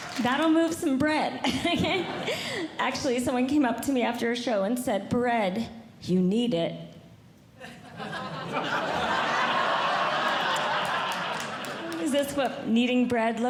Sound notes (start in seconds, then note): 1.6 audience Laughing; 7.6 audience Laughing